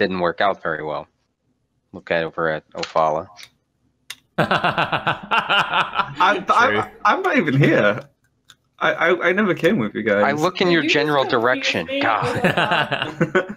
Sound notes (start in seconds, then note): 4.5 laughter